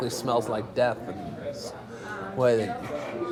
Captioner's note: stammering